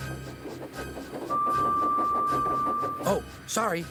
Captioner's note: chugging; whistle